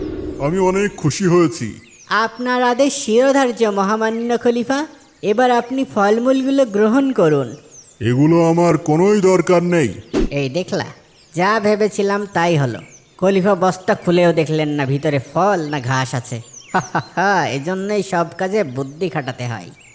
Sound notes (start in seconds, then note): 16.7 laughing